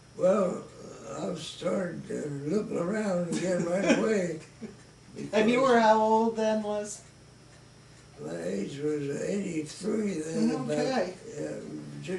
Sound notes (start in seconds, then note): 3.3 chuckles